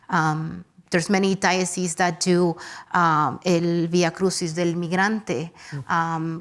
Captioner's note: speaks Spanish